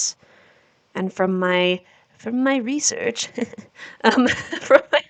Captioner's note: nerdy voice; normal voice, laughing; nerdy laugh